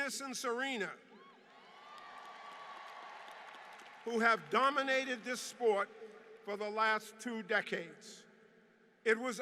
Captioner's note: applause